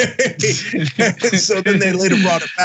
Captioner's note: laugh